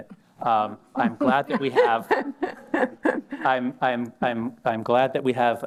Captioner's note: laughter